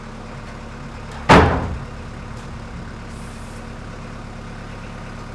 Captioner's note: cabinet thuds